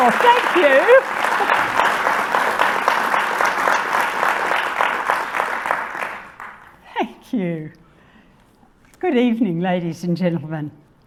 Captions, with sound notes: - Oh, thank you. (audience applauding) Thank you. Good evening, ladies and gentlemen,